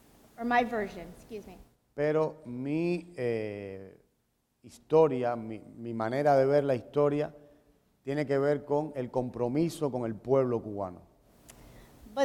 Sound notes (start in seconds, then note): 1.7 speaking in Spanish